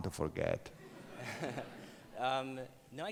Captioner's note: audience laughs